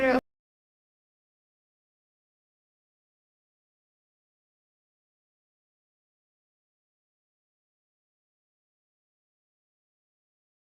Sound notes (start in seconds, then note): 0.9 silence